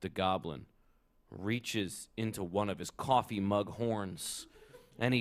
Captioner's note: laughter